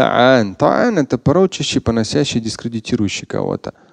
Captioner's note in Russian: Говорит на арабском